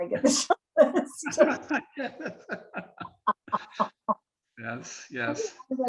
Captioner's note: chuckling